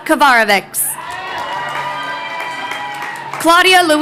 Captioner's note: crowd cheering